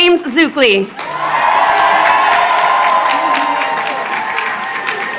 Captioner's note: crowd cheering